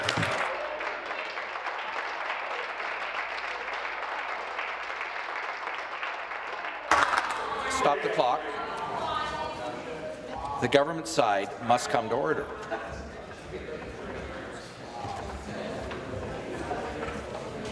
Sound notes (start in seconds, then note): 4.2 applause